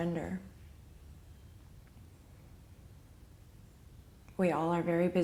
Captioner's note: cardinals chirping